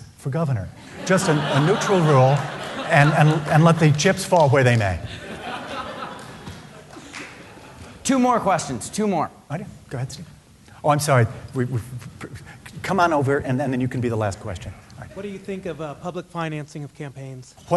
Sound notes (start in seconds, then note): 5.1 laughs